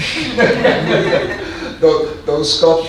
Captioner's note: audience laughing